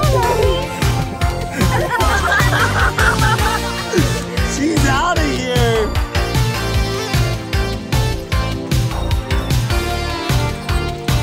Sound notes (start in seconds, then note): 2.3 all laughing; 6.6 techno music continues